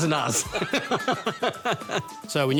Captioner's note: laughter